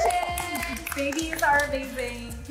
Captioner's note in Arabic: كل التصفيق